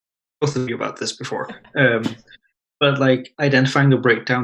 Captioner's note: laughs